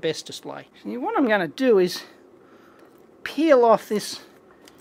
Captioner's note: sound of plastic peeling